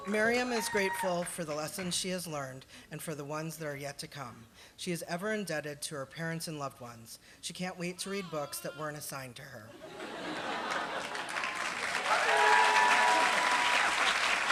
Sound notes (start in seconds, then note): 9.7 laughter; 10.6 applause